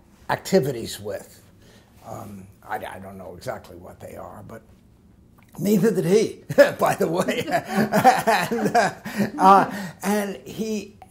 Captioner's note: laughter